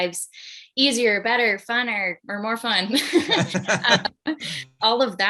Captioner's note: laughs